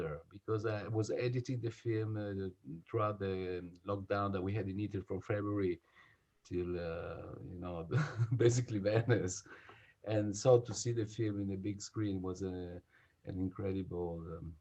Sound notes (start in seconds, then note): 7.9 laughs